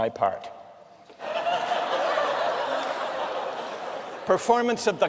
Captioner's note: laughter